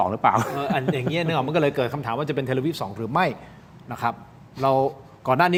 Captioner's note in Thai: เสียงหัวเราะ